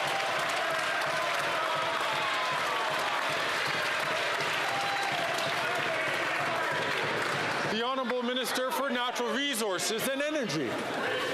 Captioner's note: some Applause